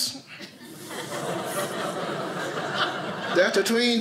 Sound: audience laughing

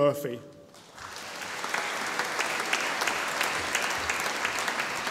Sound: audience applauding

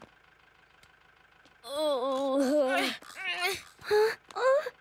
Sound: groaning

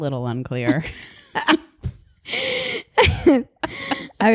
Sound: both laugh

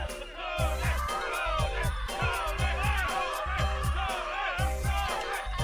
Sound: Tonys cheering

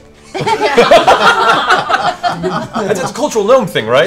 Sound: all laugh

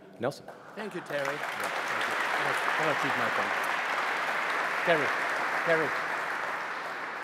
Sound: applause

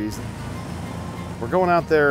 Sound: vehicle moving on the snow

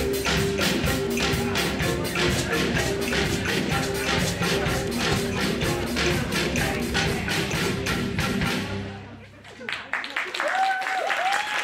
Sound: applause

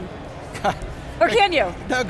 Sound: laughs

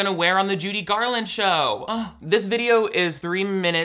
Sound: scoffs

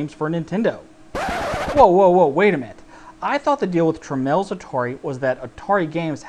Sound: record scratch

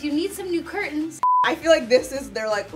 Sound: beeps

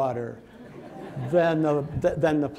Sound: crowd laughs

